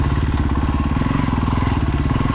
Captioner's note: engine revving